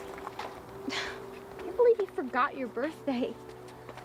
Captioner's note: chuckles